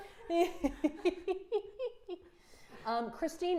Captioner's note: Safiya giggling loudly